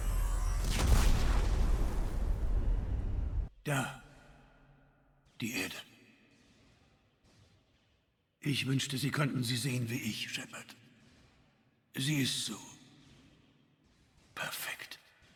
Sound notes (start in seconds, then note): 0.0 boom